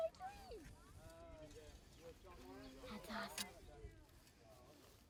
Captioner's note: whispers